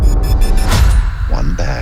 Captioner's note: electronic beeping